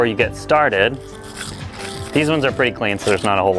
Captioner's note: scrubbing